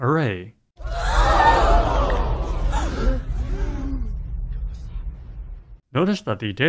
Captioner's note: crowd gasping